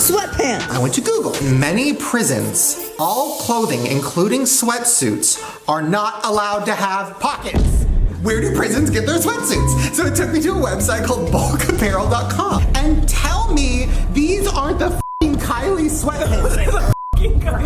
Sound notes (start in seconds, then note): 16.8 beep